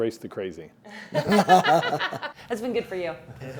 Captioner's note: all laugh